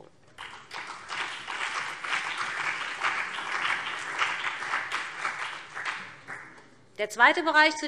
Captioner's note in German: Beifall BÜNDNIS 90/DIE GRÜNEN und CDU